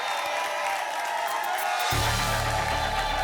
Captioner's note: applause and cheering cont; static